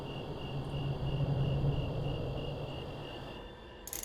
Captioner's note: crickets